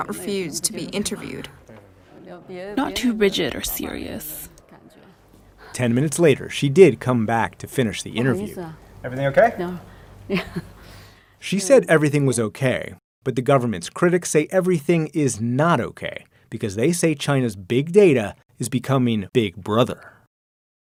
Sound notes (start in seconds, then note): 8.9 speaking foreign language